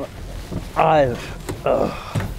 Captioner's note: grunting noice